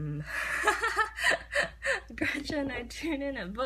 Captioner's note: laughs